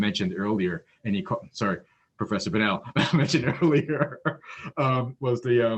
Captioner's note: laughs